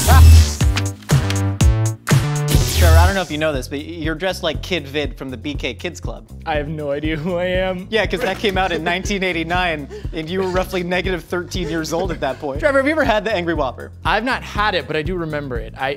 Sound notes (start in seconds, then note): 0.0 retro music; 12.7 laughs